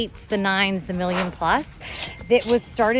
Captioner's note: cash registry dings